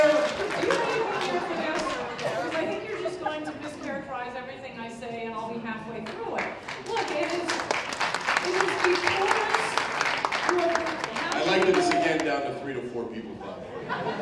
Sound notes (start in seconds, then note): 10.0 applause